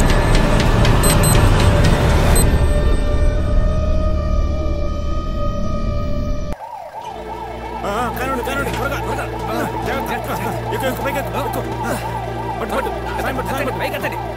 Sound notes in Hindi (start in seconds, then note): 6.5 एम्बुलेंस का सायरन बजता है